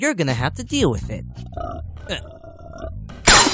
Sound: Marc's stomach grumbles

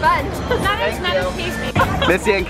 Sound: laughing

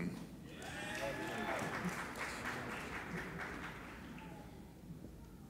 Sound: applauding and cheering

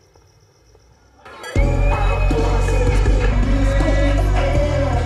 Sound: wolf whistling

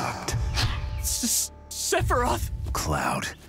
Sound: terrified

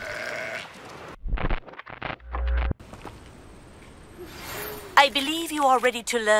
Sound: baah

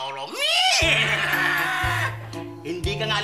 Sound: cawing; neighing

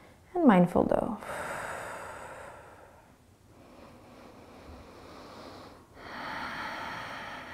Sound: exhaling and inhaling

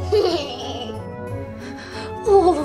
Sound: laughs

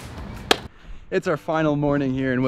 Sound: camera thuds

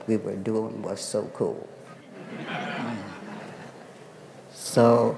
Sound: laughter

